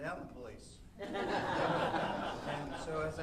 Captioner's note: audience laughing